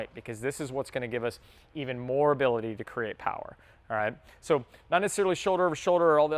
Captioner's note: none